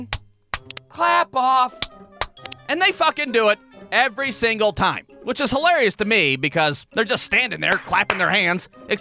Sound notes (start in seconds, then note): 0.5 clap-clap!; 2.2 clap-clap!